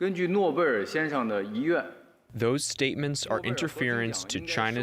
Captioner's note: through translator